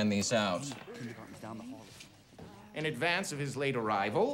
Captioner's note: students murmuring faintly